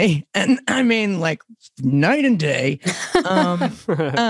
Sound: laugh

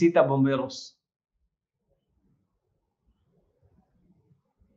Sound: speaking Spanish

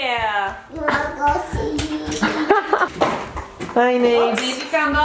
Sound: laughs

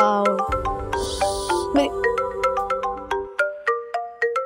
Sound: phone rings

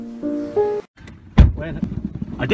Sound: sad piano music; car door closes

